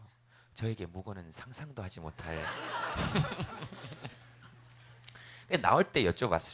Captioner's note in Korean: 웃음